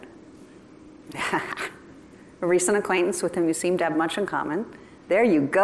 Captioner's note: laughter